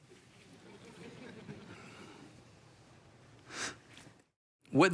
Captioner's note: congregation laughs